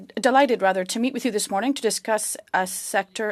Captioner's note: speaking French